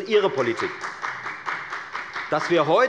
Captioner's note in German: Beifall bei der FDP